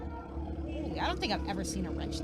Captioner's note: motorcycle engine roaring